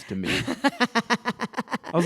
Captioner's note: laughter